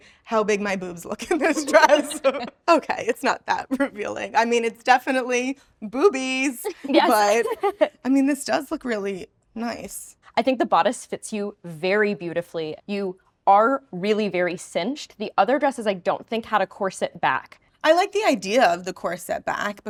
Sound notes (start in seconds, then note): 1.4 all laughing; 6.7 laughs